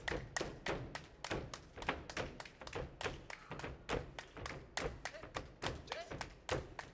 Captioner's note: hands clapping and feet stomping